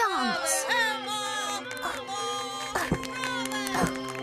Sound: guests Chattering

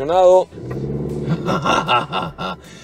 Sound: engine roaring; laughter

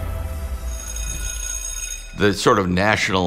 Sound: bell rings

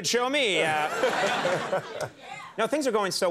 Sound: audience laughing

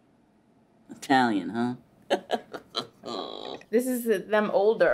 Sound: laughs

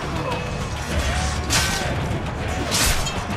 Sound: fighting sounds

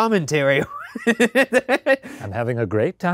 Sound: laughing

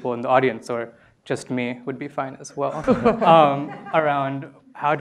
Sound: laughter

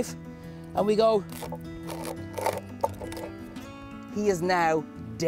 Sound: knife cutting through shell

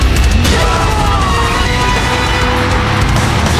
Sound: death scream

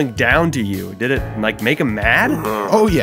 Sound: growling

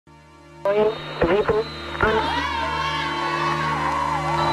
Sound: voiceover

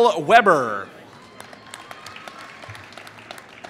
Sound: applause

